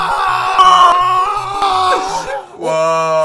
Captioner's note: ugh